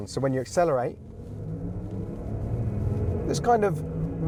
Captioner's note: engine purrs